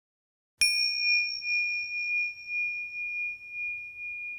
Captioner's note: bell chimes